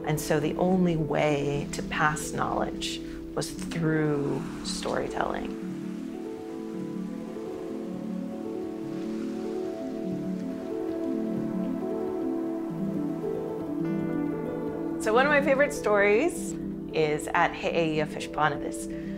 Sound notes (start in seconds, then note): 6.5 peaceful music; 9.8 waves crashing